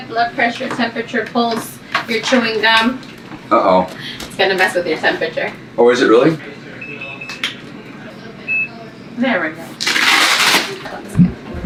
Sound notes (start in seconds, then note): 6.8 beeping